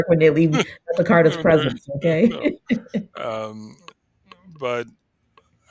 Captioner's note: laughs